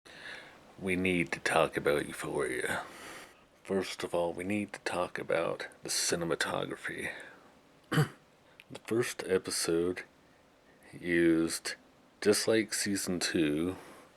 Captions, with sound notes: We need to talk about Euphoria! First of all, we need to talk about the cinematography. (Clears throat) The first episode used, just like season 2,